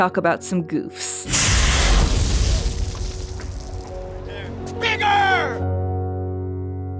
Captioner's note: explosion